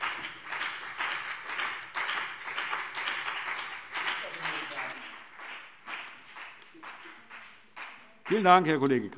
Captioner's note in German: Beifall BÜNDNIS 90/DIE GRÜNEN und vereinzelt CDU